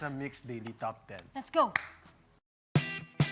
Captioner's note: claps; upbeat music playing